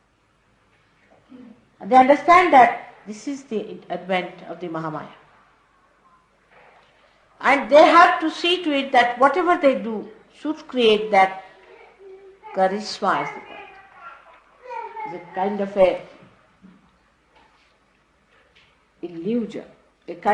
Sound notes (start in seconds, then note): none